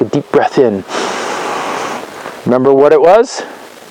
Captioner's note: inhales